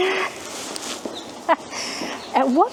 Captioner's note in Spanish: Risas